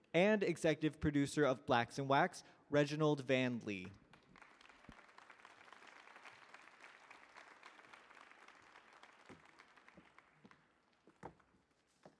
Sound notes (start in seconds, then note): 3.8 audience clapping